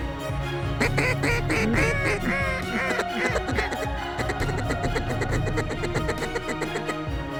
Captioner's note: duck calls